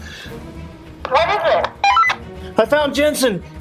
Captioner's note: comm beeping